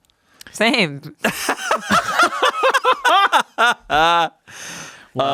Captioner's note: everyone laughs